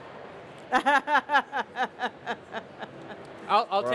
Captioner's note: she laughs